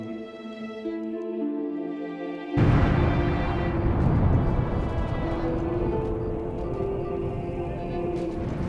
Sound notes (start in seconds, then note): 2.5 explosion booming; 4.6 dramatic orchestral music